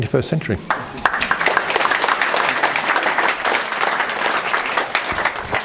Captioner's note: applause